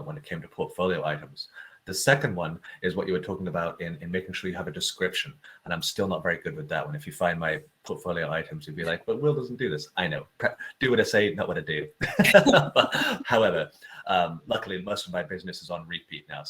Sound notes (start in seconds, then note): 12.0 both laughs